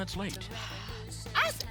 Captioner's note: sighs